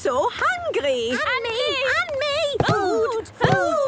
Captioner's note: calling out in turn